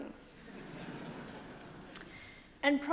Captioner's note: audience laughing